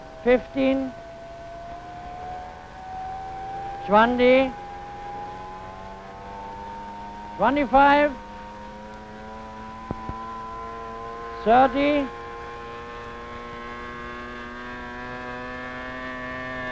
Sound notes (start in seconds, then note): 1.4 propeller droning